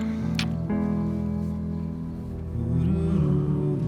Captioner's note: lips smooching; somber music